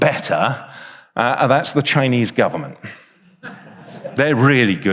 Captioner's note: audience laughs